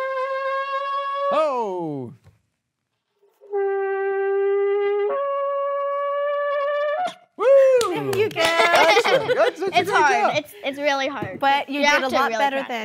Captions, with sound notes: (horn blowing) Oh! (horn blowing) Whoo, excellent! - It's hard, it's really hard, you have to really practice.